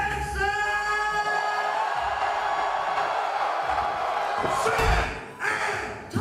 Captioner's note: cheers and applause